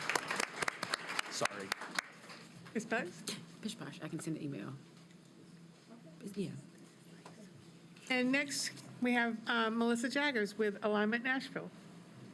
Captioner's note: applause